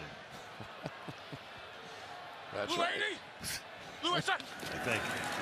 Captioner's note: chuckles